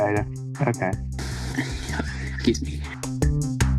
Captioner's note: undressing prep noises